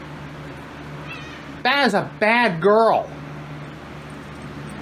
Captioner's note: Caprice meows